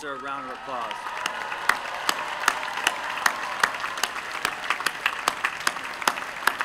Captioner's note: applause